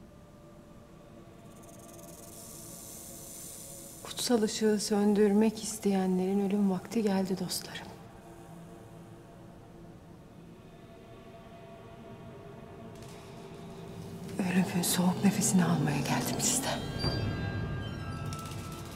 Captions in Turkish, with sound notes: (Yılan sesi) Kutsal ışığı söndürmek isteyenlerin ölüm vakti geldi dostlarım. Ölümün soğuk nefesini almaya geldim sizden.